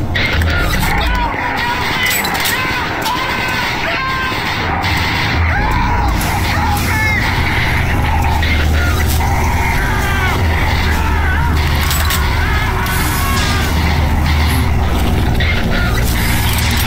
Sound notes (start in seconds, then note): 12.1 screaming in pain